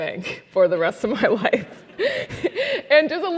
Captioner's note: laugh